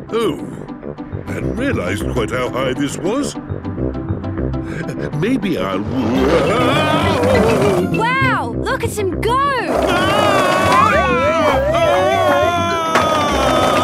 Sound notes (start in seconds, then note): 10.3 shouting